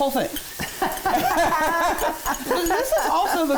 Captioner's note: both laughing